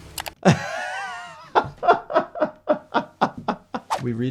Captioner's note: mouse clicking; laughing